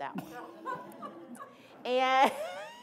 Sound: laughing

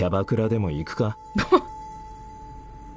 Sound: chuckles

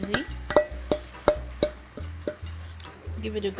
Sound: spoon clatters

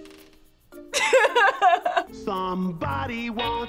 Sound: laughs

